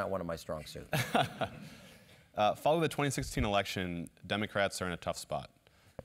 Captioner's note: laugh